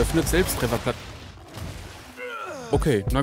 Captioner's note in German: Ächzen